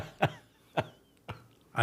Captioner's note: laughter